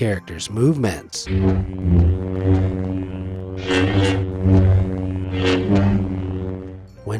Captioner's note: buzzing and whooshing